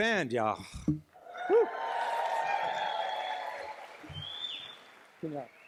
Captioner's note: cheers, applause